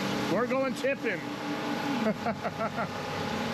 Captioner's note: laughing